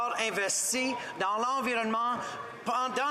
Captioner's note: speaking French